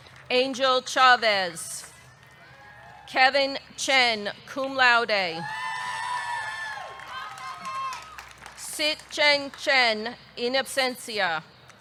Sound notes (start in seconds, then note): 5.5 audience cheering; 6.6 audience clapping